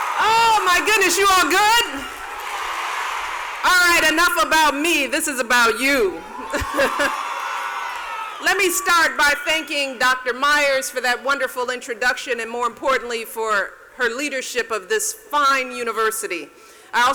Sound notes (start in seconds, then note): 0.0 laughs; 0.0 cheers and applause; 2.2 audience cheers; 6.4 laughs